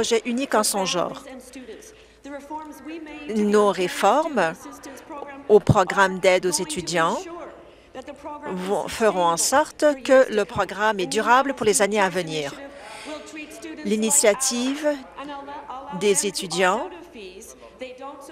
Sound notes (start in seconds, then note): none